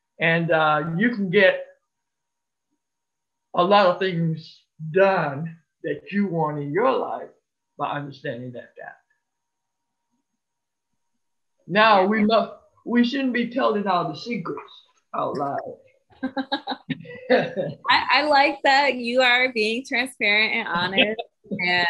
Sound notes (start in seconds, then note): 16.2 chuckles